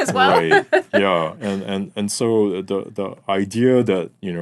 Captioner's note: laughing